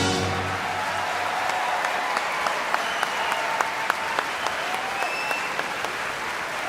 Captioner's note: audience applauding; audience cheering